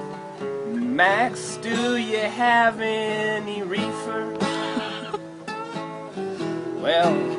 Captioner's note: laughs